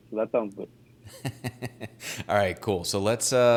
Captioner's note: laughing